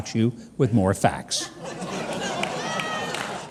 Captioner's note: audience laughing